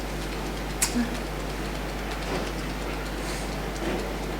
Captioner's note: tapping